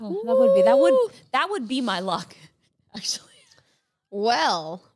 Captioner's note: laughs